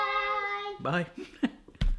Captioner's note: laughing